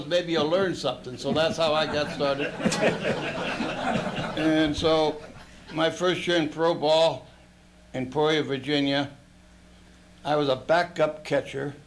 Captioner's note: laughter